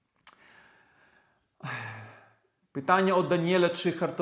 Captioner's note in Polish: wciągnięcie powietrza; westchnienie